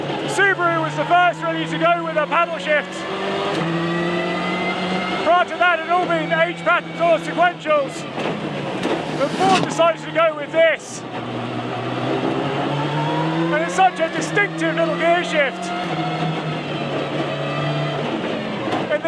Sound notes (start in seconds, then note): 0.0 engine rasping; 3.2 transmission whining; 15.4 engine rasping